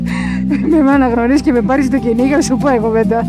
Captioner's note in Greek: γέλια